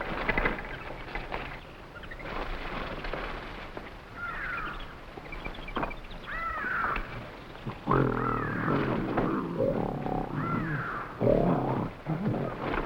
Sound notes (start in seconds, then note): 2.9 animals chattering; 2.9 gorilla rustling; 12.1 animals chattering; 12.1 gorilla grunting